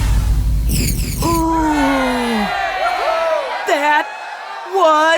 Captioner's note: electronic booming; high pitched pinging; crowd